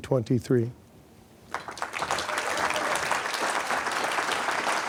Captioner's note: applause